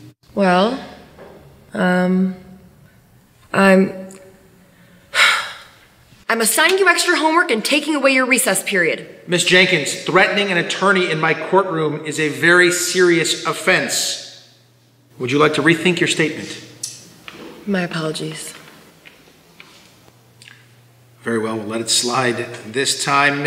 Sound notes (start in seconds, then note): 5.0 Miss Jenkins sighs